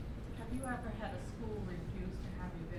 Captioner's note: voiceover